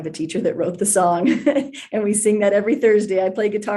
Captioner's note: laughs